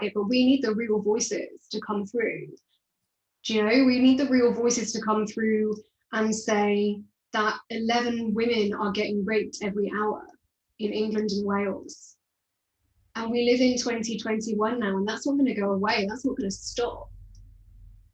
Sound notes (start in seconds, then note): none